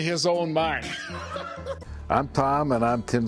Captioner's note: laughs